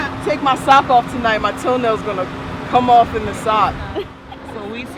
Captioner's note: laughs